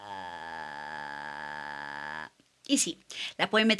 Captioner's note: spooky voice